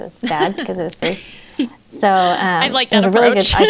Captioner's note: they laugh